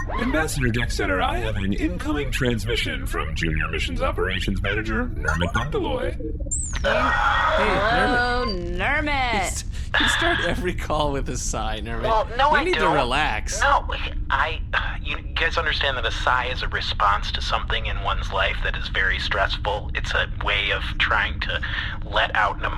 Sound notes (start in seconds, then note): 0.0 the beeps and boops of an incoming transmission; 6.9 sighs